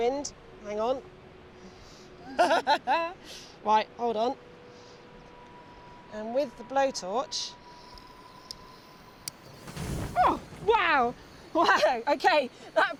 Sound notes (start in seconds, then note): 2.3 laughs; 9.3 flame whooshing